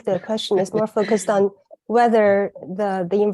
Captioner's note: laughs